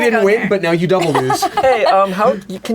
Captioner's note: laughs